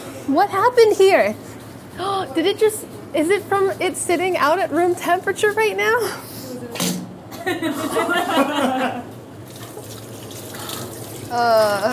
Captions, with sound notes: What happened here? Did it just, is it from it sitting out at room temperature right now? [heavy plopping] [all laughing]